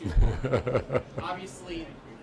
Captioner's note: Sec. Carter laughs